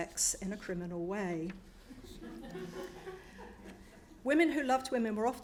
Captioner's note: audience chuckles